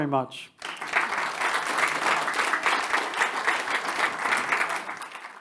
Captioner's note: attendees applauding